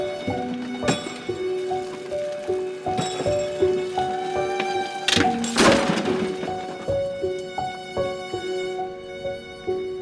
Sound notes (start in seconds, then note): 5.1 tires hit concrete; 5.2 glass shatters